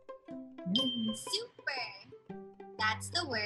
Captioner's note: stars tinkling